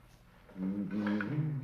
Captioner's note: humming